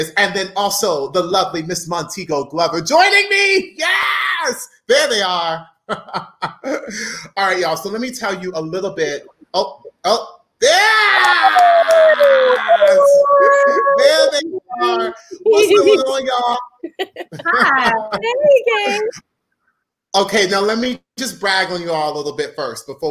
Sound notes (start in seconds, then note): 12.5 cheers